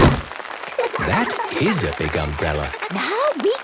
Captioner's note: laughter